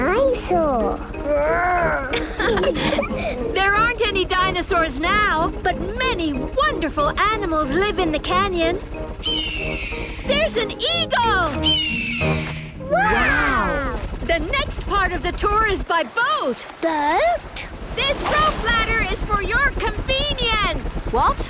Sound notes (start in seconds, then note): 1.3 laughing; 9.2 eagle shriek; 11.6 eagle shriek